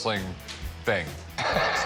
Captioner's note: laughs